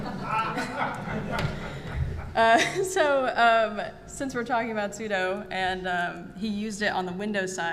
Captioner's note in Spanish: risas